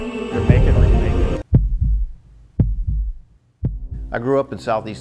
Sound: heart beat

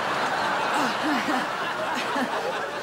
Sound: chuckles

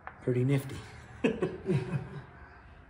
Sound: laughing

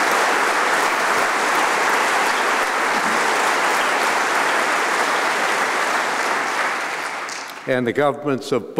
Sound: applause

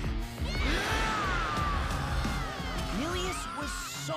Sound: roaring

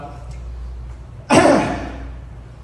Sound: dramatically clears throat

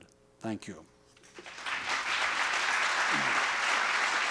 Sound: applause

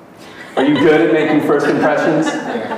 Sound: audience laughing

